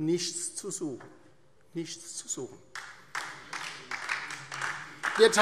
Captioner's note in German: Beifall DIE LINKE